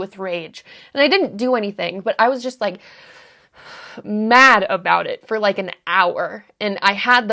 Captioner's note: breathes heavily